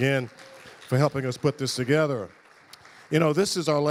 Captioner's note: audience applauding